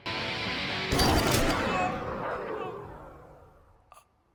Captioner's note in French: tirs d'armes à feu